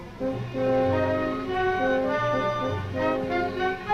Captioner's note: none